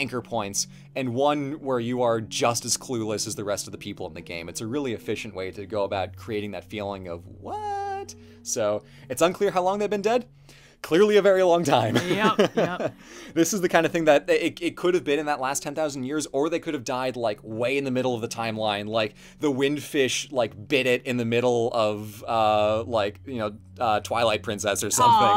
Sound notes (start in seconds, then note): 11.9 laughs